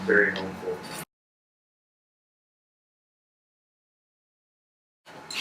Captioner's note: silence